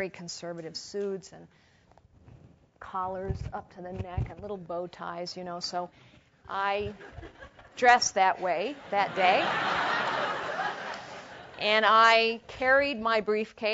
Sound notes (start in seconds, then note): 8.8 laugh